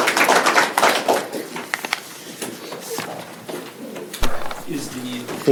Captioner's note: applause